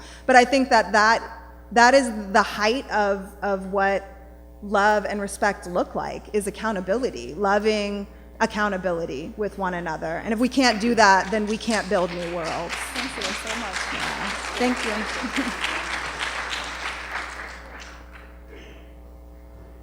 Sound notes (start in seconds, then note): 13.9 applause; 15.4 applause